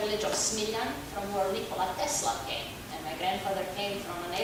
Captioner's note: speaking foreign language